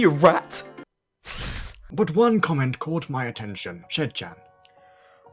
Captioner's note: hiss